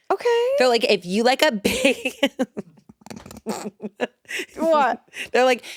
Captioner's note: laughs